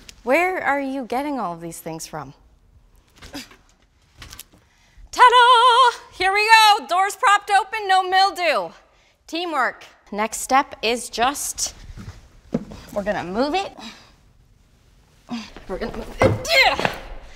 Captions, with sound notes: Where are you getting all of these things from? TAAA DAAA! Here we go, doors propped open. No mildew. Teamwork. Next step, is just... ...we're gonna move it... (light grunting) We're gonna move it...eeyahh